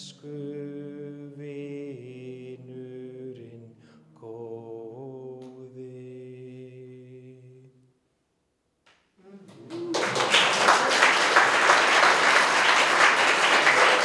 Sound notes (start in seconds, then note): 9.4 applause